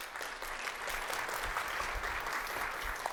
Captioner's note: applause